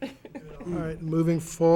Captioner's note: chuckles